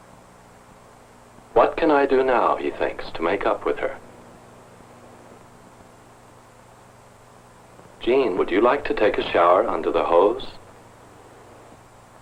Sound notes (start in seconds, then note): none